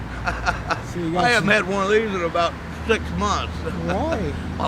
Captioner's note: laughs; laughs